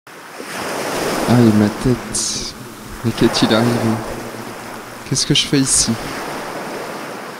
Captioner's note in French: voix étouffée